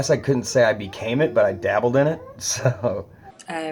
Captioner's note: laughs